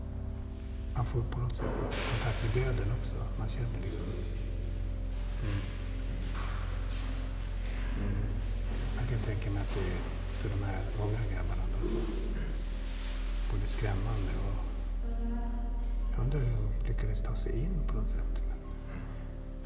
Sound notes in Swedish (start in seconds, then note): 5.0 hummar sobert och instämmande